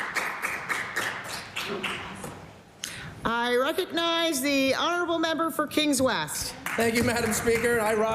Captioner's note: applause